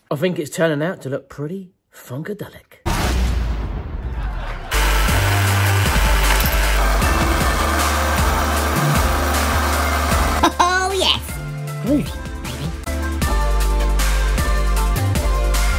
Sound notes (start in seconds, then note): 4.7 machine revving; 4.7 upbeat music